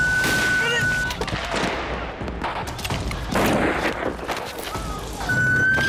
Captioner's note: woman screaming; gunfire; woman screaming